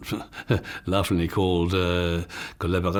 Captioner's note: speaking in foreign language